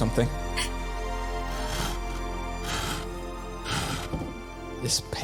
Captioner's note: rope creaking